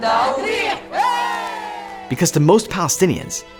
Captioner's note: group cheers